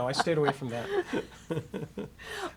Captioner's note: laughing; laughs